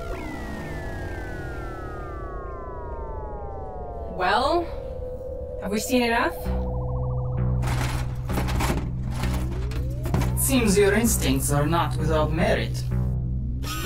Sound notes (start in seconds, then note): 6.4 apprehensive percussion; 7.6 pod rattling